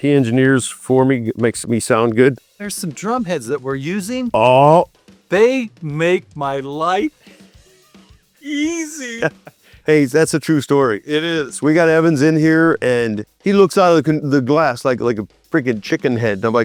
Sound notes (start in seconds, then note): 8.4 laugh